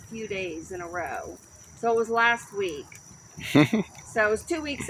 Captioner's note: laughs